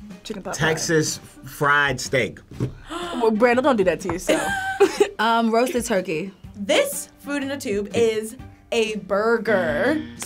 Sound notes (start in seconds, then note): 2.8 gasping; 4.3 laughing